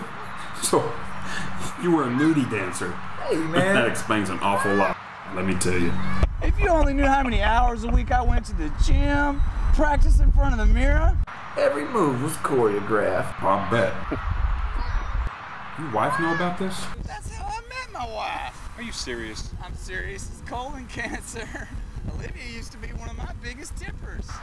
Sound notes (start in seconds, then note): 0.4 laughs; 13.3 laughs